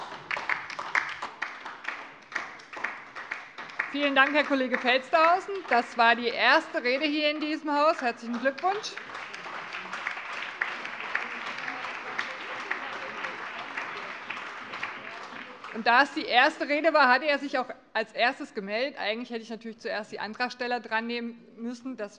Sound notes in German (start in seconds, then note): 0.2 Beifall DIE LINKE; 9.5 Allgemeiner Beifall